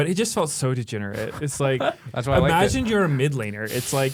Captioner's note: laughs